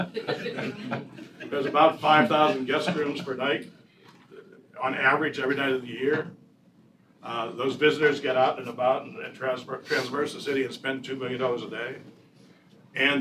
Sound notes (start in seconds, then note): 2.8 laughter